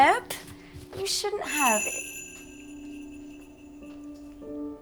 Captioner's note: bells jingling; solemn music